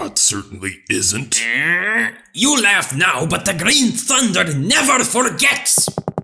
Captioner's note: grunts